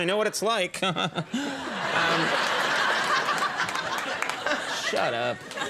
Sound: audience laughing

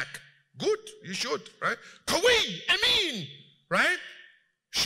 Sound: Arabic

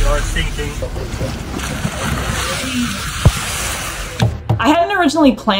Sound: sound of orcas thrashing in water

